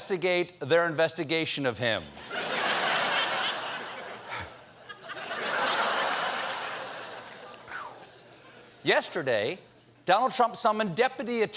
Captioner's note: laughter